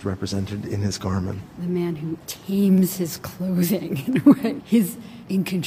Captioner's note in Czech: smích